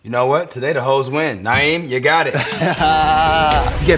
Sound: laugh

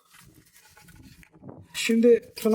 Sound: crackling sounds

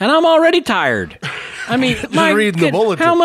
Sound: laughs

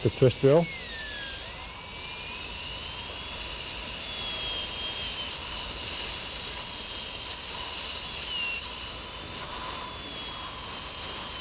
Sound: drilling sound

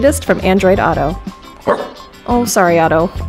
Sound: barking

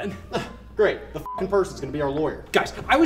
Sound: beep

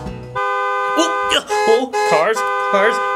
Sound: cars honking

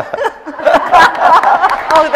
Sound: laughing; audience clapping

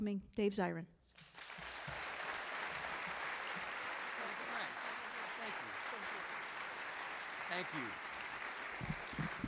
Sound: applause

